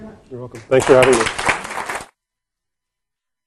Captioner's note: clapping